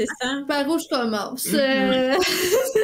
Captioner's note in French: rires